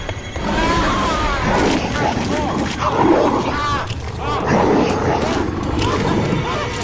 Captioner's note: air whooshing; werewolf growling; veteran screaming; flesh tearing; tense sinister music